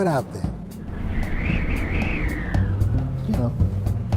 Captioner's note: wind whistling